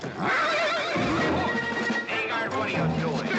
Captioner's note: horse neighing and throwing a fit